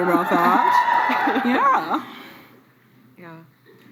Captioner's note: cheering